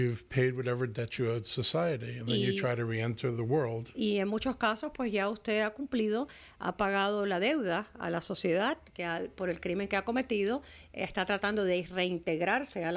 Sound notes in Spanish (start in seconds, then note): 2.9 Hablando ingl\s